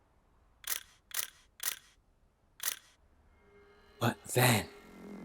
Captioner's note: shutter clicking